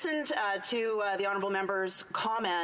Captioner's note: speaking indigenous language